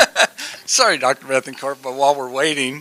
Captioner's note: laughter